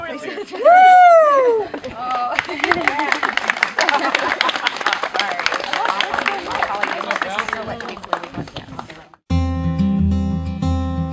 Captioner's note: applause